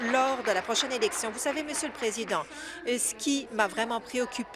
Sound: applause

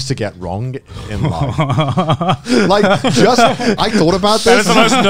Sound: laughs

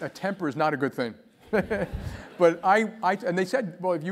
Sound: laugh; laugh

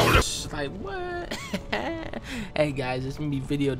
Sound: laughs

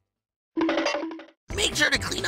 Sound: end-of-tangent cartoon run sound

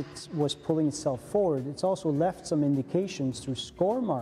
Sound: voiceover

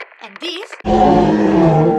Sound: roar

